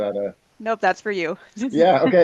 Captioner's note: laughter